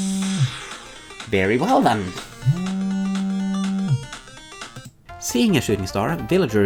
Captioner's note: phone continues ringing; phone ringing ends